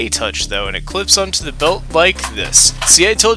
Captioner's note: click clack noises